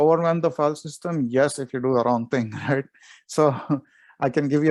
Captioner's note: chuckles